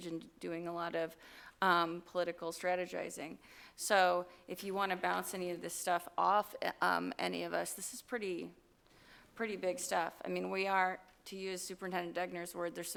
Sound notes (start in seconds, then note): none